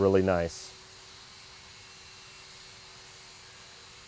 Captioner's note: power saw drills